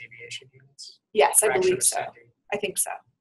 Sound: voiceover

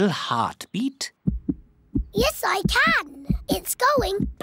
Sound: heart thumps

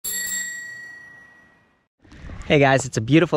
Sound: bell clinking

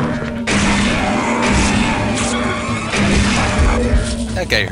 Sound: gunfire and monster yelling; gunfire and monster roars

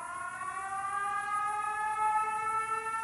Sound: sirens

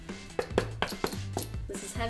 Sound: taps table; knocks on boot

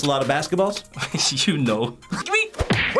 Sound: laughs

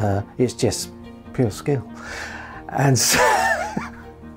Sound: laughs

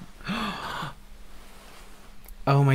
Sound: gasps Of Achievement

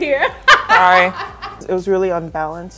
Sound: laughing

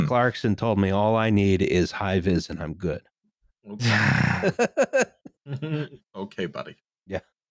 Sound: laughter

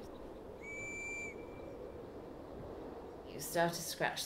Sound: a whistle sounds

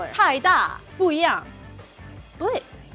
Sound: speaking in mandarin

